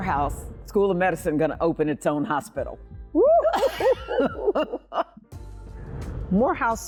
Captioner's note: laughing